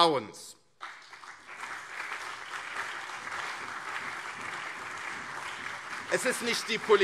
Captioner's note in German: Beifall CDU und SPD